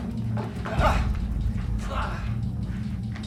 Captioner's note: gasps